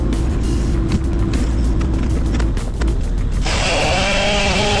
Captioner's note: engine revving